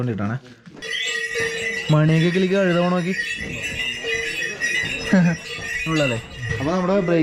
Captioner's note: cow bell